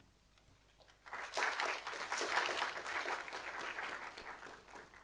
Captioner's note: audience applauding